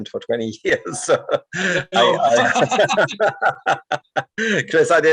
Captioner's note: laughing